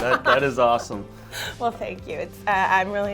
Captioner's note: laughs